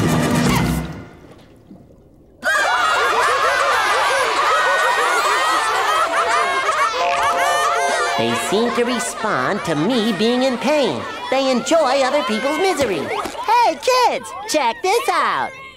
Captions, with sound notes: [laughing] They seem to respond to me being in pain. They enjoy other people's misery. Hey, kids, check this out.